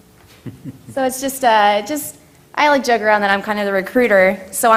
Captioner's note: laugh